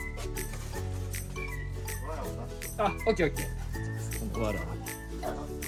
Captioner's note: laughs